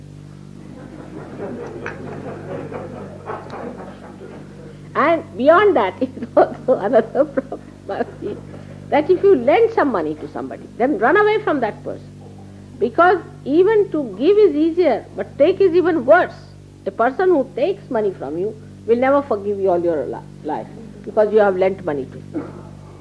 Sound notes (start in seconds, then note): 0.6 laughter; 3.3 laughing